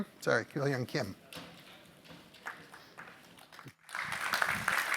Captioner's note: applause